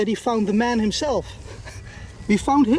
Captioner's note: chuckles